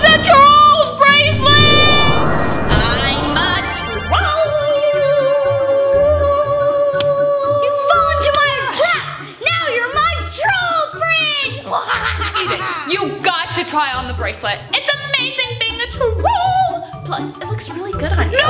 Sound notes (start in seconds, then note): 11.4 laughs